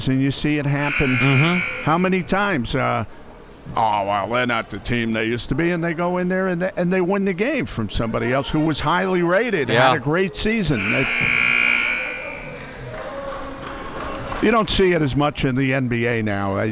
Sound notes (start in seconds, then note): 10.6 buzzer blaring